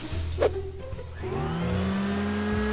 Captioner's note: snow blower revs